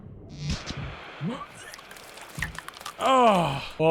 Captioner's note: Skull groans